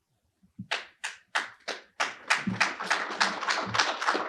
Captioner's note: attendees applaud